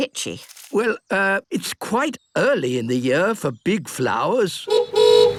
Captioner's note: honking